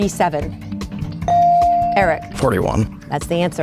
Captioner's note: bell dings